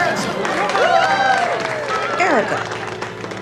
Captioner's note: all cheering